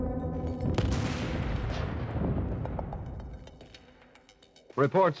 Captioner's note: explosion booms